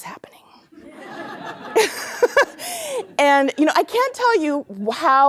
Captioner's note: laughter